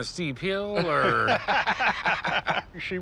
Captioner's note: laughter